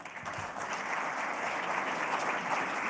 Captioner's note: applause